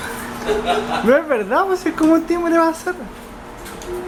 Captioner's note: laughter